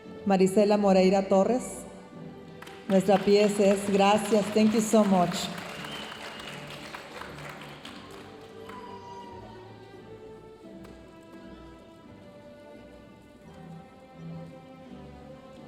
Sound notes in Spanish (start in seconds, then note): 6.1 aplausos de la audiencia